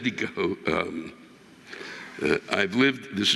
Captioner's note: audience laughing